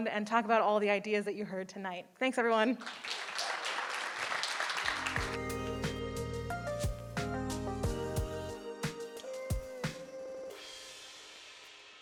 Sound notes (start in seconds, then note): 2.8 audience applauding; 3.2 upbeat music